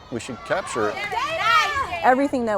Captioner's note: team cheering